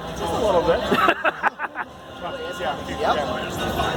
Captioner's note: laughs